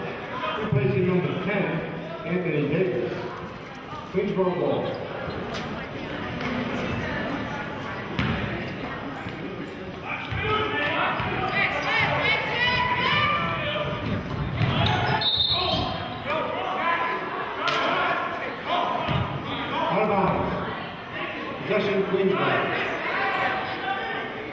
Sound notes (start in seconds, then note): 12.1 yelling; 14.9 whistling; 18.7 yelling